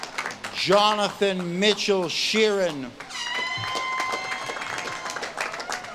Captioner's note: audience claps and cheers